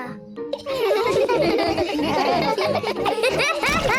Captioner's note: all laugh; laughs